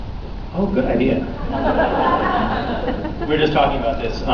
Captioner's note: laughs